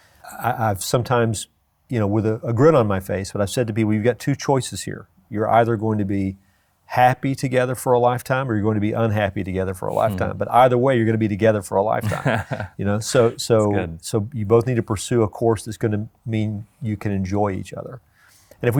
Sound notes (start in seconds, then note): 12.0 laughs